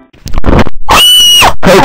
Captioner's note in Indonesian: Teriakan Cewe Diperkosa